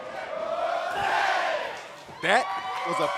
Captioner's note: fans chanting